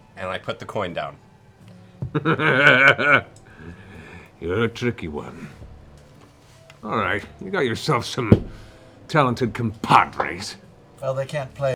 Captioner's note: laughs